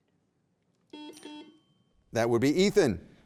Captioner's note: beep